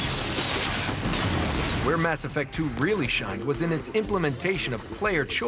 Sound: explosion

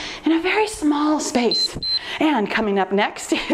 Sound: timer beeps

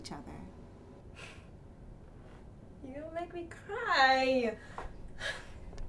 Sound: chuckles

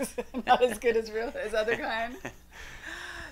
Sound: laughs

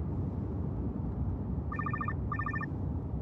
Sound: cell phone ringing

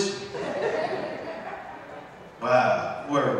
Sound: audience laughs

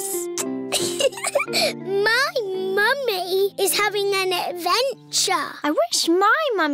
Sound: air kisses; giggles

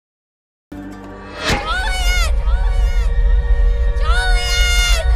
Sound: sirens wail

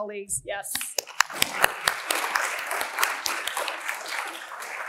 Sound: applause

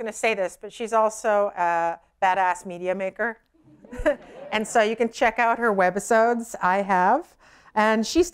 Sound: laughter

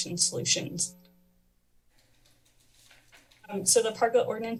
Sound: pause

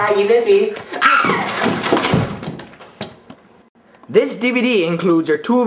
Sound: shrieks, DVD cases clatter

